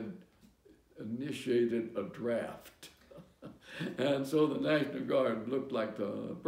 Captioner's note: laughter